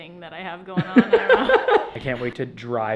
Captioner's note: both laugh